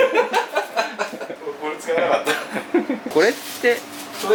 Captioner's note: laughs